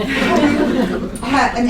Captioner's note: laughter